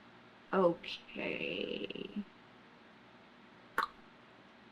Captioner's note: clicks tongue